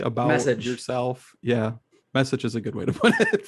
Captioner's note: laughs